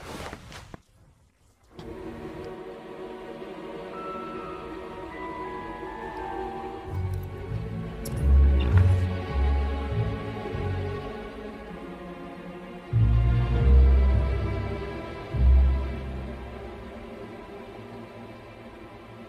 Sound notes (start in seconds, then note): 6.1 Alastor hums